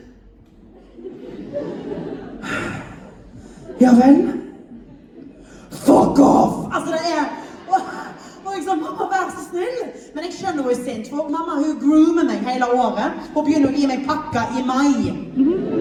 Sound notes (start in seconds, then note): 2.4 sighs